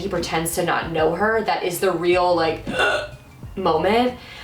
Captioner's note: gasp